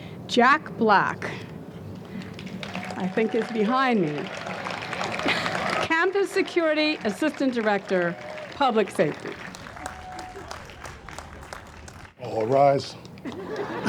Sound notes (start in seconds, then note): 4.3 audience applauds